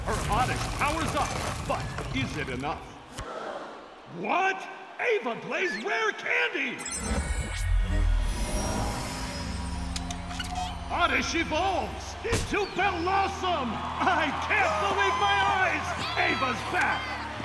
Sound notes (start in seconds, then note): 3.1 audience gasps